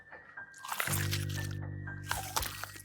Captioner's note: meat squelches; tense music